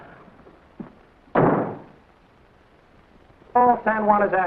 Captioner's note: door slams shut